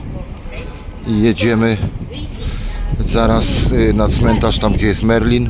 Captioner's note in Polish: parsknięcie